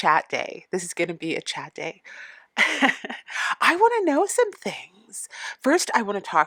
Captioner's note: laughing